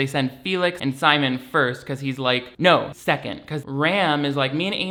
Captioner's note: none